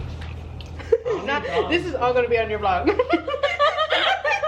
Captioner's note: laughter; laughs